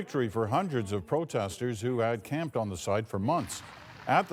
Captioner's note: cheers and Applause